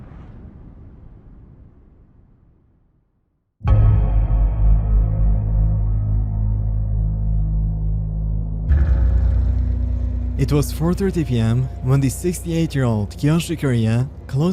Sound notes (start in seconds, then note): 3.6 heavy bell chime; 3.6 hollow thud; 8.6 ominous music